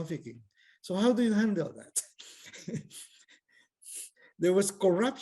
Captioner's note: laughs